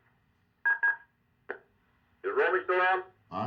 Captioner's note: phone beeping